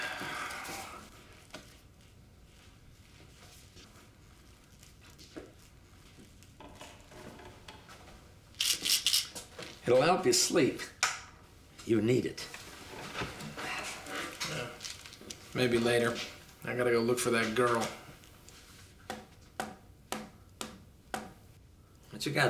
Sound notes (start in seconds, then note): 0.0 sighs; 8.5 pills rattle in bottle; 19.5 tapping on desk